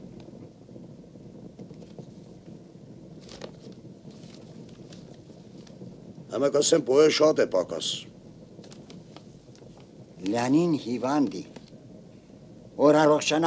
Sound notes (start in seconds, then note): 1.5 rustle; 8.5 rustle